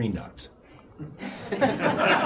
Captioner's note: laughter